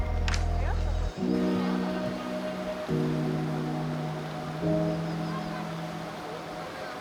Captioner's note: lively music continues; water rushing